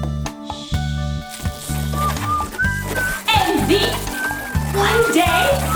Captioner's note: boy whistles